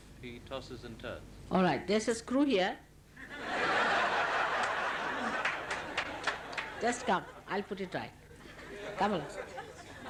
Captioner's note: laughter